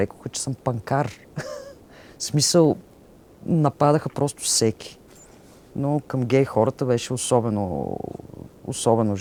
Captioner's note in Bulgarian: смее се